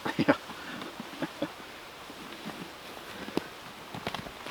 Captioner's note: chuckling